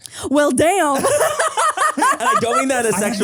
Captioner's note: all laugh